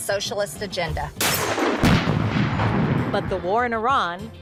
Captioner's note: explosion booming